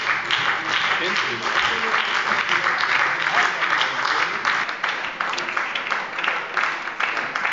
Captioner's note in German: Beifall bei der SPD